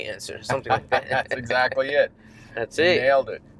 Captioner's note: laughs